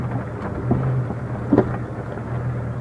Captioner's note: engine noise, rocks crushing under tires noise